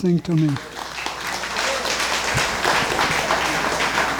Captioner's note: crowd clapping